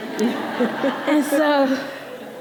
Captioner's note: audience laughing